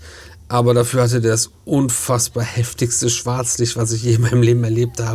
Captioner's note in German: schnauben